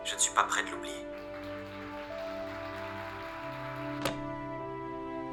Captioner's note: applause